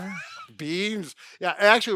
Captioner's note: chuckling